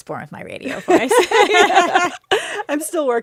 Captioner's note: laughter